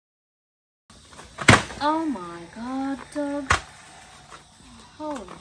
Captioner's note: stool clatters as it falls